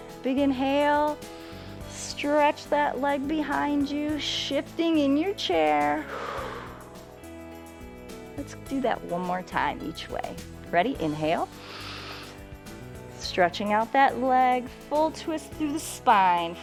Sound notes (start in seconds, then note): 1.3 inhales; 6.0 exhales; 11.5 inhales